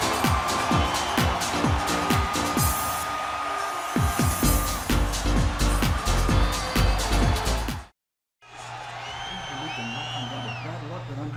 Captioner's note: crowd cheering